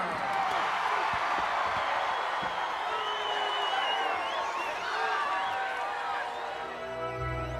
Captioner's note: applause